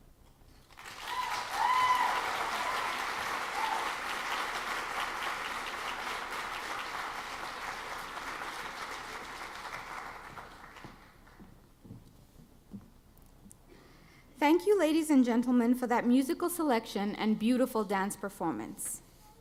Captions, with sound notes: (audience clapping) Thank you ladies and gentlemen for that musical selection and beautiful dance performance.